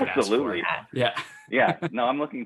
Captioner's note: laughs